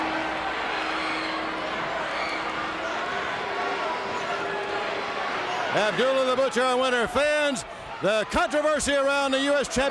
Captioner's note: crowd cheering